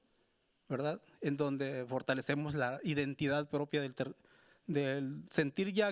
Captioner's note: speaking Spanish continues